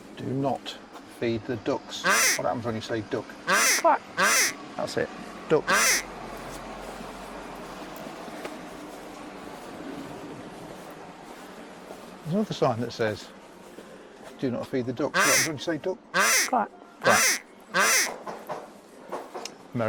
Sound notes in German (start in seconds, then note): 5.6 quack